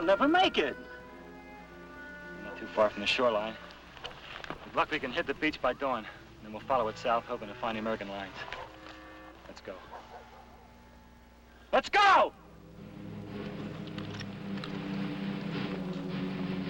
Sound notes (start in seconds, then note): 9.6 dogs barking; 12.6 suspenseful orchestral music